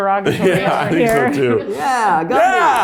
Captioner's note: laughs